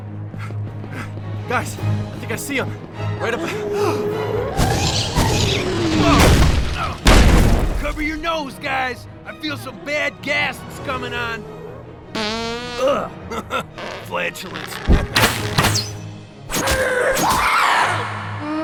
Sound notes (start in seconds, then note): 3.1 panting; 3.3 gasps; 7.0 grunts; 12.1 farts; 13.2 chuckles